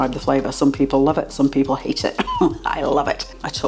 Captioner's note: laugh